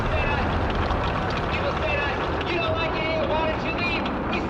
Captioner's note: rocket roars